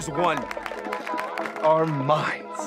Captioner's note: crowd clapping